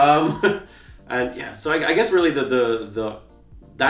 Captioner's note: laughs